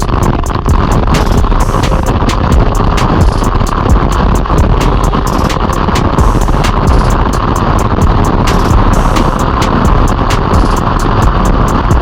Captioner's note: intense waterfall crashing down